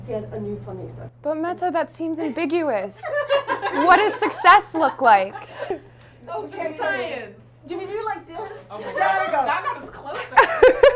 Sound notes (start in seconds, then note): 3.0 lots of laughter; 6.2 group chatter